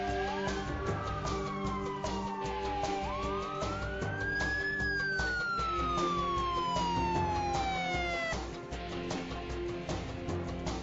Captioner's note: sirens